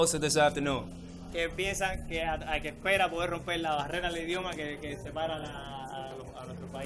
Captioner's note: interpreter speaking in foreign language